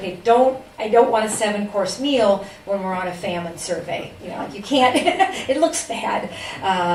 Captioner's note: laughs